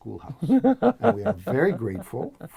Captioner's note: laugh